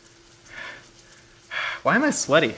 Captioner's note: panting